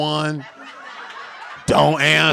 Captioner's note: audience laughing